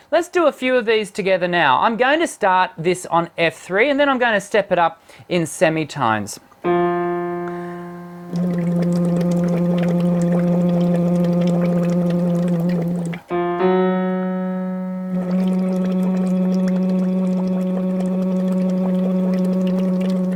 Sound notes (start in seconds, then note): 6.6 hits a single piano key; 8.4 blowing bubbles; 8.4 humming; 14.5 blowing bubbles; 15.2 humming at a higher pitch